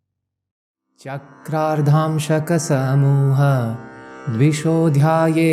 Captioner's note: man chants in Sanskrit